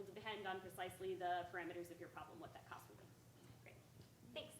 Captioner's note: speaking faintly